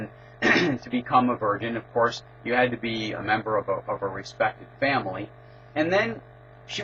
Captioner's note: cough